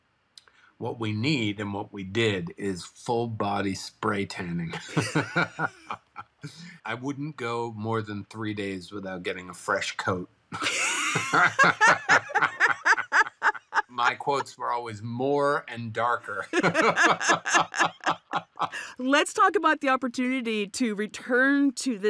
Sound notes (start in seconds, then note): 4.2 laughs; 10.5 both laughing